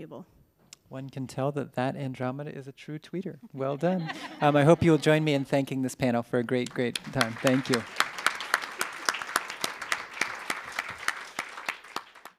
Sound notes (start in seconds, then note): 6.5 applause